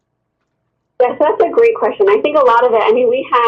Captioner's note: voiceover